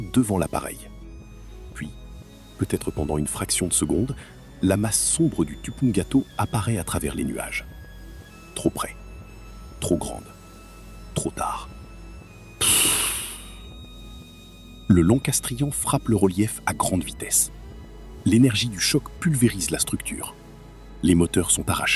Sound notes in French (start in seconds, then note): 12.6 soupir